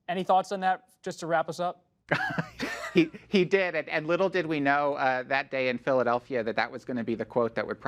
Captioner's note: laughs